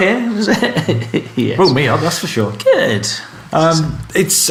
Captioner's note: laughs